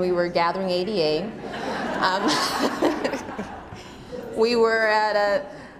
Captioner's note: laughter